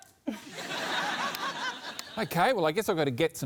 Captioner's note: laughter